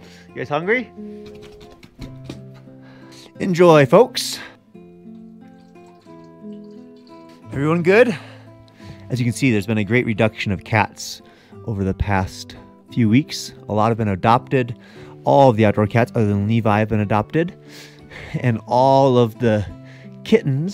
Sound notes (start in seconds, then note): 1.5 cat food sloshing; 4.7 water trickling